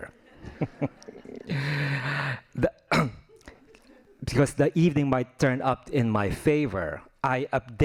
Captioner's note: laughing